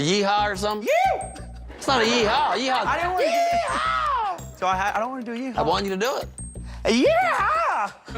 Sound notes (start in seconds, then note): 2.3 shouts